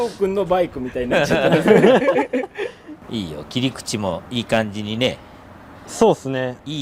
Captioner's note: laughs